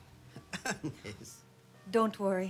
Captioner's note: laughs